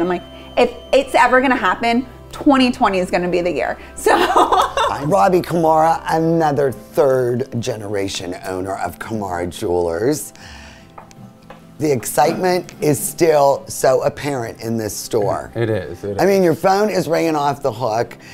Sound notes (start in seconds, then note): 4.2 chuckles